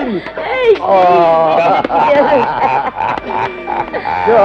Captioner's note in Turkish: Kahkahalar